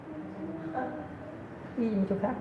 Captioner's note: whispers